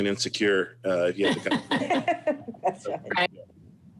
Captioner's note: laughs